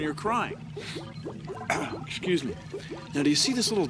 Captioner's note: sniffles, clears throat